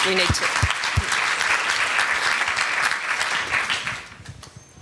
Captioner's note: applause